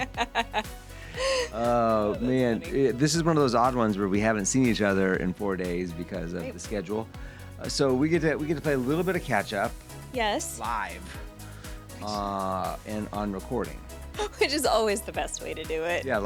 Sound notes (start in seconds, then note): 0.0 laughing